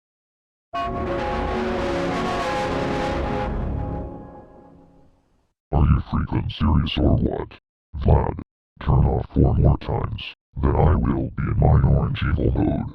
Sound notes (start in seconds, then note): 0.8 Giga Blue Evil Windows XP Startup Sound